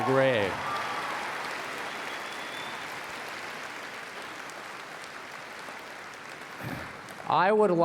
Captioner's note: applause and Cheering